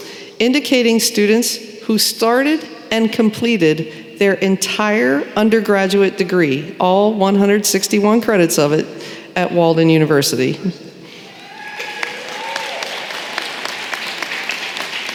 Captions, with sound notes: indicating students who started and completed their entire undergraduate degree, all 161 credits of it, at Walden University. [applause]